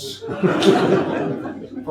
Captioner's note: audience laughs